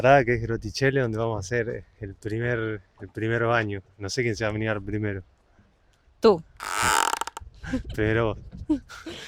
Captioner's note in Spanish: risas